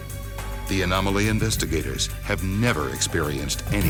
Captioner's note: voiceover